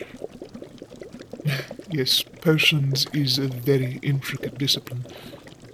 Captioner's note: small sigh